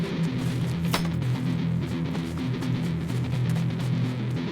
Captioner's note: knife striking; upbeat chase music